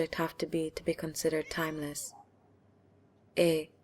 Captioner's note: meowing